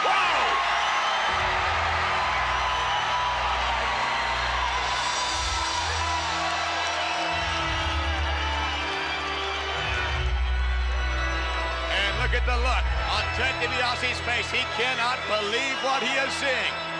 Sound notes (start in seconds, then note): 1.5 crowd cheers; 5.5 funeral march continues